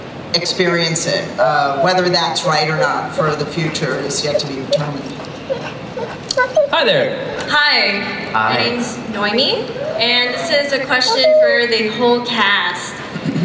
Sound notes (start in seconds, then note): 7.5 voiceover